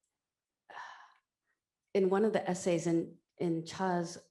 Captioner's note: exhales heavily